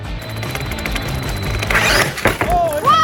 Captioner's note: RC car whirring